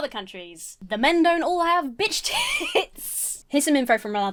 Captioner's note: laughs